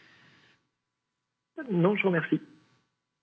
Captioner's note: speaking French